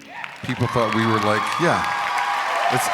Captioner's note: crowd cheering